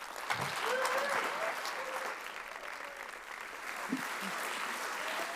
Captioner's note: audience applauds